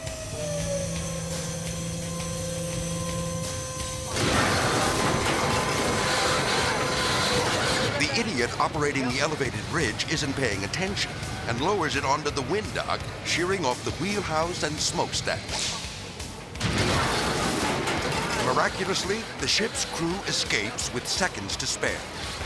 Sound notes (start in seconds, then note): 0.2 motors humming; 4.1 metal clanging and crashing; 16.8 metal clanging and crashing